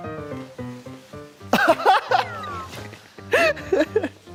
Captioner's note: light steps